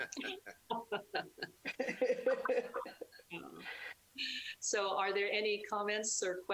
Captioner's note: laughing